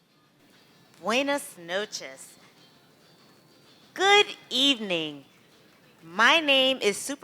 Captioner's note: non-english speech